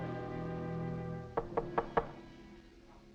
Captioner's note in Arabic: يطرق الباب